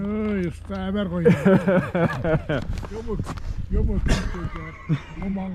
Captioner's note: locals speaking in foreign language